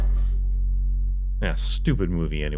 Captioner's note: tv switching off noises